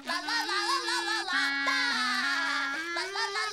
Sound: SpongeBob laughing

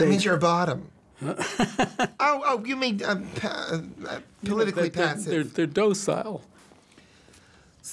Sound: laughs

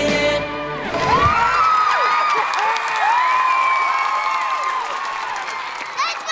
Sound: cheering, applauding

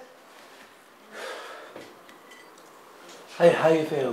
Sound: big sigh

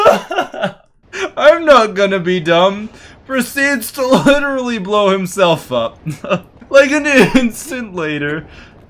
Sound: laughs

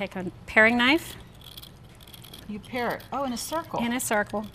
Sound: knife scrapes

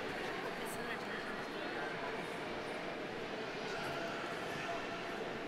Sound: people chattering

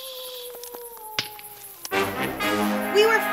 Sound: wolf howls; twig cracks loudly

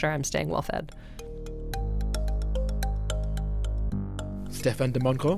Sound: voiceover

